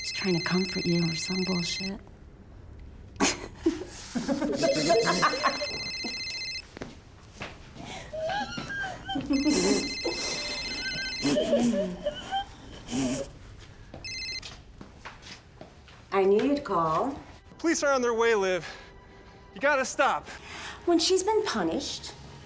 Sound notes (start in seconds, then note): 3.2 laughing; 4.5 phone ringing; 7.8 whimpering